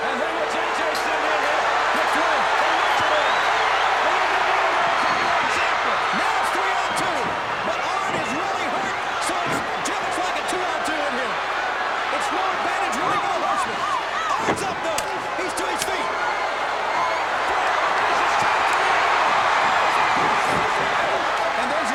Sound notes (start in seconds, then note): 4.0 crowd's roar drowns out commentary; 17.7 crowd's roar drowns out commentary